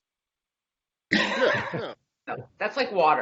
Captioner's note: laughing